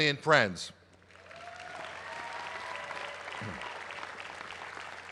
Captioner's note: applause